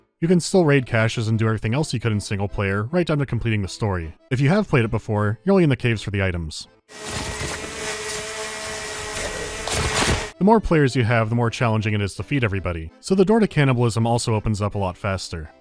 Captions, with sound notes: You can still raid caches and do everything else you could in singleplayer, right down to completing the story. If you have played it before, you’re only in the caves for the items. [buzzing of chainsaw] The more players you have, the more challenging it is to feed everybody, so the door to cannibalism also opens up a lot faster.